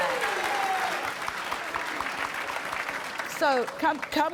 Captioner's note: applause